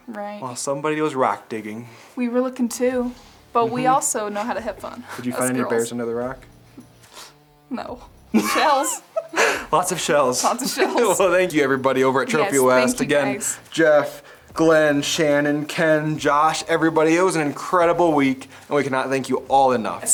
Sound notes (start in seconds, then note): 5.2 chuckles; 8.3 chuckles; 8.3 laughing; 8.3 laughs